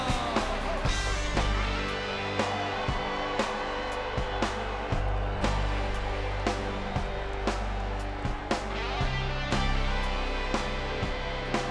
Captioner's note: bell ringing